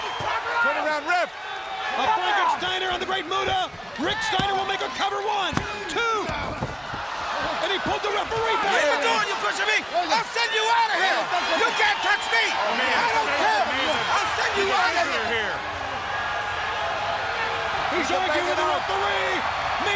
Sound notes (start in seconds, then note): 0.1 crowd cheering; 5.4 thuds; 7.1 crowd cheering; 16.6 crowd cheering